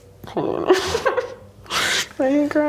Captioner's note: laughs